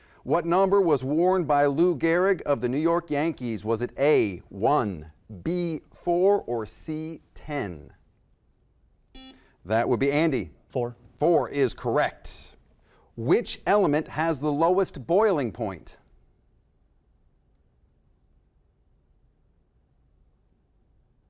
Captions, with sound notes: What number was worn by Lou Gehrig of the New York Yankees? Was it A. one, B. four, or C. ten? (buzzer) That would be Andy. Four. Four is correct. Which element has the lowest boiling point?